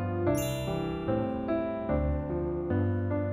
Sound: bell chimes

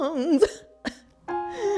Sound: coughs; wheezes

